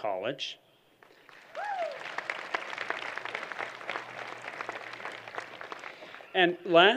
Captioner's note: applause